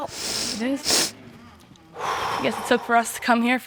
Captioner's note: exhales